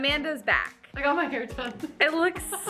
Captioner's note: laughs